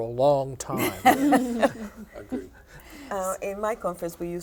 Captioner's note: laughter